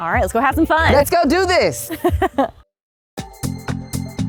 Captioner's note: host chuckling; upbeat music